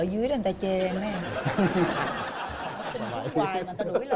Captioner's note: laughing